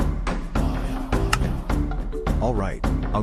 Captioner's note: minecart placed